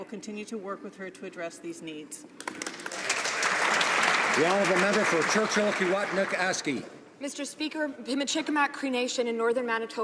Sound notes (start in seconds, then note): 6.3 some Applause